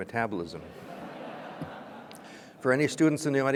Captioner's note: audience laughing